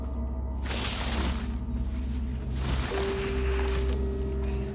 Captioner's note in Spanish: Ruido de la hojarasca